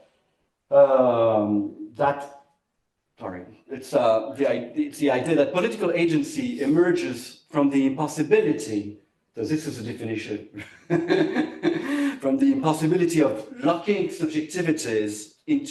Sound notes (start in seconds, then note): 10.5 laughs